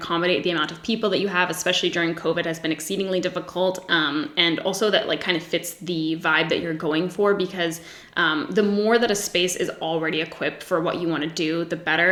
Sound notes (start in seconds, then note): none